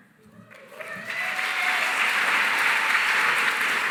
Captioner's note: cheering, applause